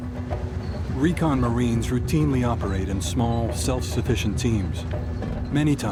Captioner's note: voiceover